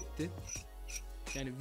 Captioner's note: screw turning voice